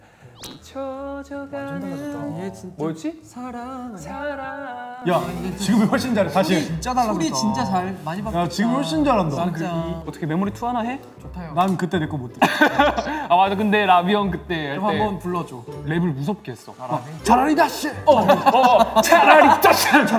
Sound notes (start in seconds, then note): 12.4 he he he; 17.6 threatening; 18.0 he he he